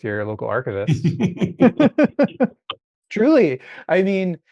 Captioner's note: both laughing